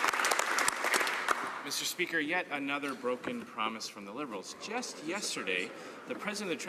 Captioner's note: some Applause